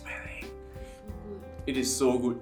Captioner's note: whispers